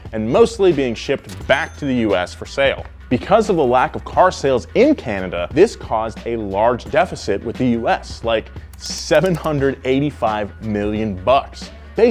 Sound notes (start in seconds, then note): 1.0 cash register dings